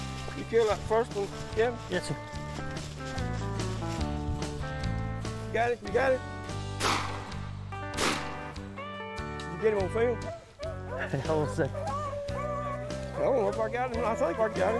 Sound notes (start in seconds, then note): 6.8 gunshot